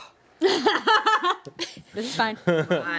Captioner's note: woman laughs